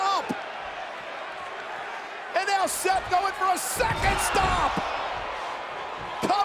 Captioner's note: applause; applause